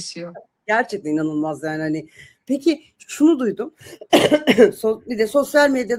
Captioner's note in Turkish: öksürme